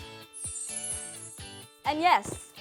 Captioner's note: twinkling